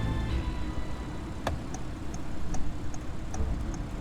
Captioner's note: turn signal turns on